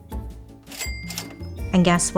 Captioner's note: cash register dinging